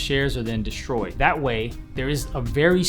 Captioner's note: whooshing